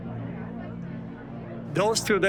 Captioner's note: people murmuring in distance